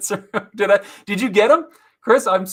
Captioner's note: laughs